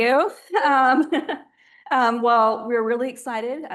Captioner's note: laughing